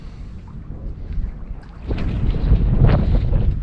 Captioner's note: ambient sounds - light wind